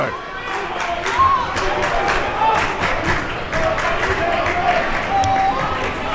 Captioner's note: crowd talking, clapping, and yelling